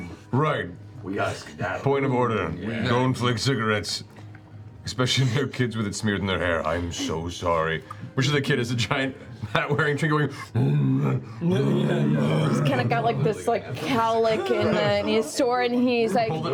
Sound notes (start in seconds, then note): 10.4 bear sounds